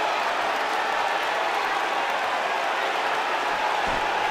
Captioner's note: cheers and boos